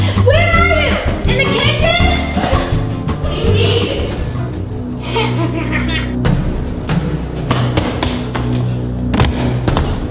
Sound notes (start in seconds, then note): 5.0 laughs; 6.1 suspenseful music